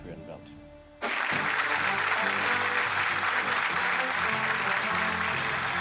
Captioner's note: audience applauding, playing